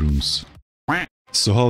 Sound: quack

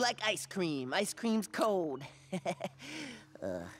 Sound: chuckles

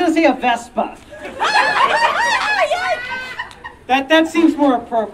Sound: audience Laughing

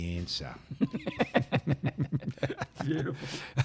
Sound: laughing

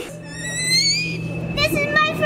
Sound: squeals

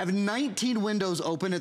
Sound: counting

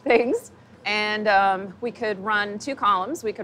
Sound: laughs

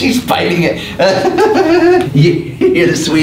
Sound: laughs

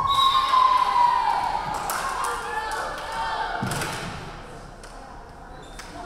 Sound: referee whistling; crowd cheering

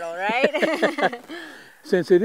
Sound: laughter

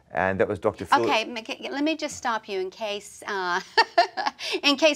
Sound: laughs

